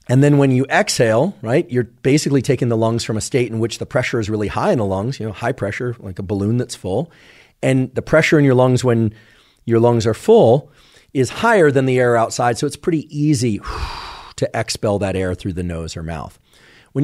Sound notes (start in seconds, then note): 13.6 exhales